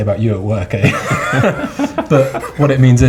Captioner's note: all laugh